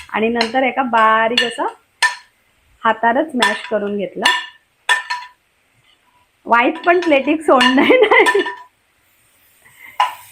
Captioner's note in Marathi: हास्य